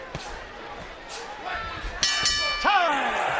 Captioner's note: bell dinging